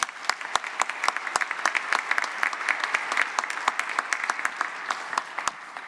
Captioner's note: applause